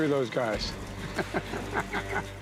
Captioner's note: laughter